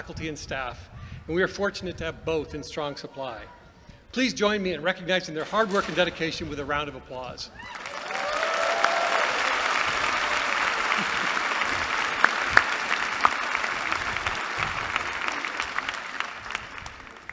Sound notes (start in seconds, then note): 7.9 applause